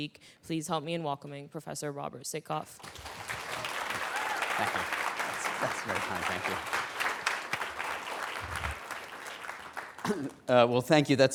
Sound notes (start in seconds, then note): 2.7 applause